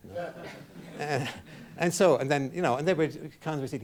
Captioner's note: chuckles; man in audience laughing